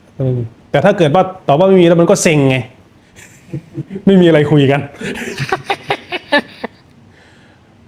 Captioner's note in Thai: เสียงหัวเราะ